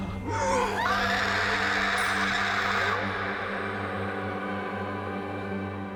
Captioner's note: pale woman roars; Rachel shrieks; somber music